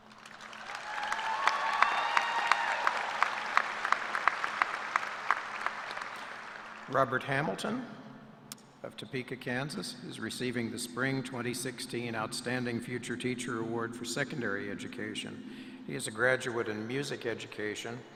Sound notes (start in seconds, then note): 2.2 applause